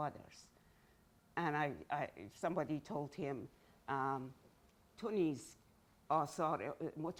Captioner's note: speaking in Farsi